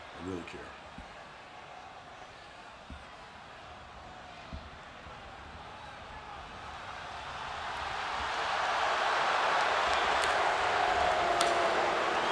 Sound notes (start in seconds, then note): 6.9 audience cheering